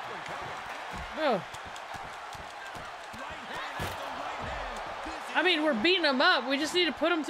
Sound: applause

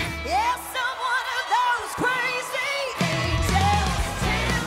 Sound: audience cheering

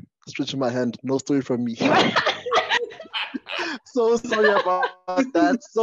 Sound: laughter

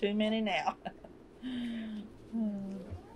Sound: laughs

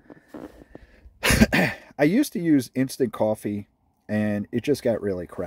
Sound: coughs

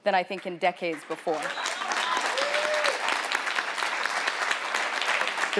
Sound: audience applauding

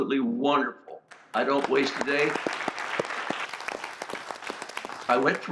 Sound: audience claps

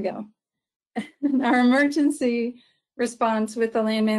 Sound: chuckles

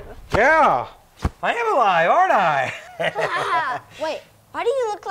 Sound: chuckling

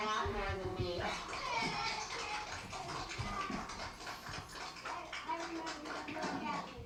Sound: applause

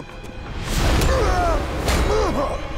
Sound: grunting

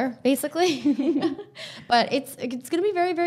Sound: both laughing

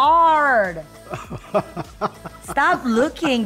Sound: laughing

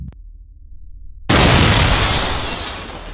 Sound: explosion

